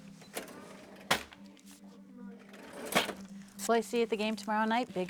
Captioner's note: cash register clinks